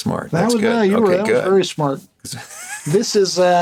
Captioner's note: laughs